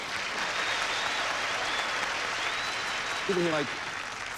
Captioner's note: audience applauding